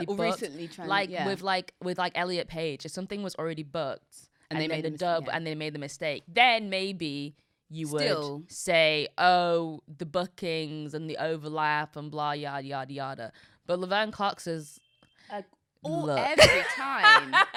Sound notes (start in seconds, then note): 14.7 phone ringing; 16.3 laughs